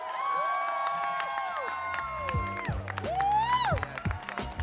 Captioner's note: audience cheering and applauding